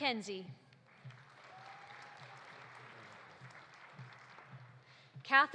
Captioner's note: audience applauding